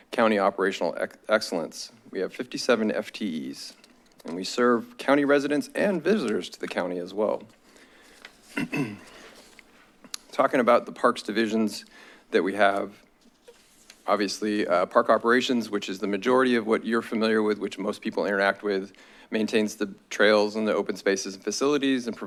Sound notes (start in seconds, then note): 8.5 clears throat